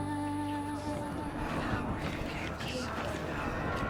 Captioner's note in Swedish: viskade skanderande